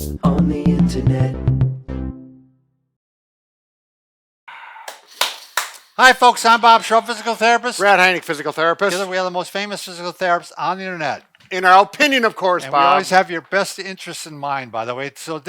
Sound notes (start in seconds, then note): 4.5 deep exhaling; 4.8 hands clapping